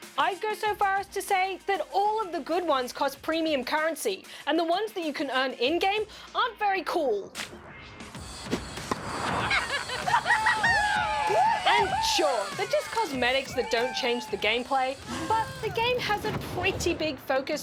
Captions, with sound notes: I'd go so far as to say that all of the good ones cost premium currency and the ones that you can earn in game aren't very cool. (LAUGHTER, WHOOPING) And sure, they're just cosmetics that don't change the game play, but the game has a pretty big focus